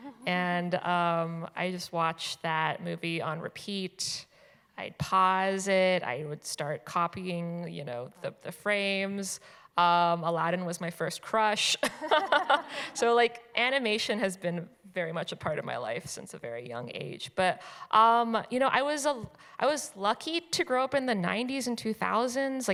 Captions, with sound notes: And I just watched that movie on repeat. I'd pause it. I would start copying the frames. Aladdin was my first crush. [chuckles] So animation has been very much a part of my life since a very young age. But I was lucky to grow up in the '90s and 2000s.